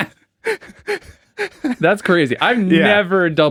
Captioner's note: both laughing